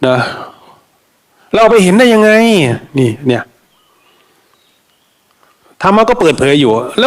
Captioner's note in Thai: เสียงสูดหายใจ